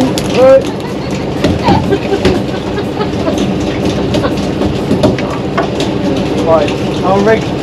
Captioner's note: laughing